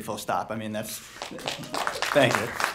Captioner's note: applauding